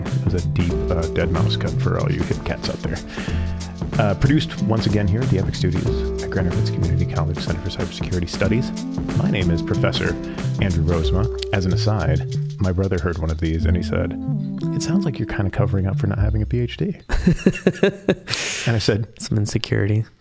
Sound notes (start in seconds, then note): 17.0 laughing